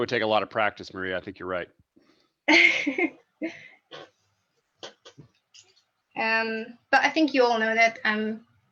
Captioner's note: laughs